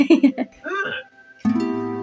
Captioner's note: giggle; romantic Music; Eeyok Chirps